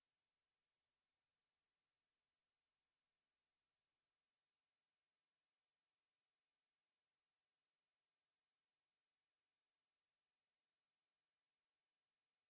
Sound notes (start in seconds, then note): none